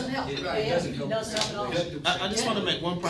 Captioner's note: all chattering